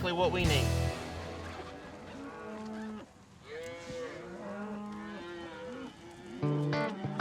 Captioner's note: cattle lowing